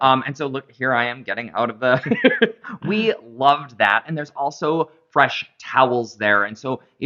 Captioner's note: laughter